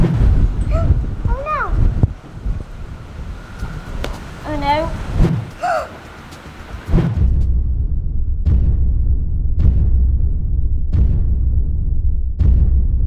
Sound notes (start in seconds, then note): 5.0 T-Rex foot steps approaching; 5.6 shrieks